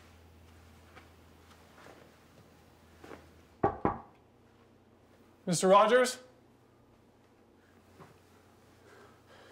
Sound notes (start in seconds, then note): 3.6 knocking on door